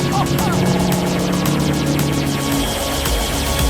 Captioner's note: engine roaring